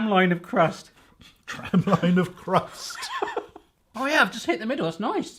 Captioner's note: laughing